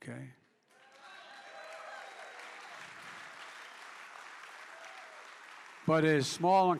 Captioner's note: applause